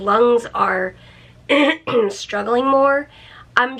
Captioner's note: clears throat